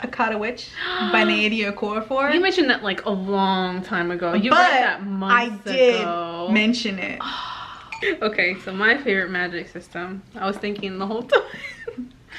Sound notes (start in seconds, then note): 0.8 sighs; 7.1 sighs in disbelief; 11.7 laughs